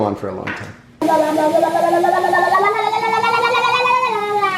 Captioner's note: babbling